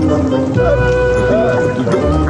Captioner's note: gasping sputter